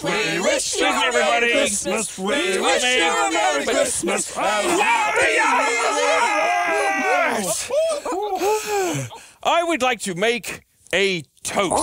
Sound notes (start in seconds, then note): 7.1 puppets yelping